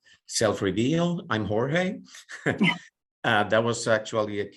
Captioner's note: laughing